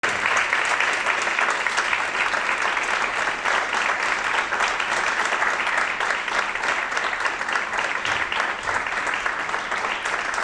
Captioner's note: applause